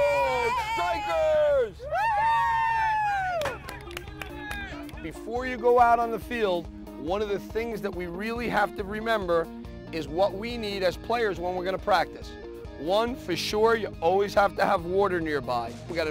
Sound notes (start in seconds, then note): 3.2 clapping; 4.2 team members cheering